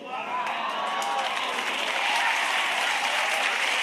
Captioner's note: audience applauding